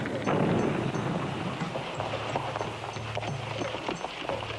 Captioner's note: horses galloping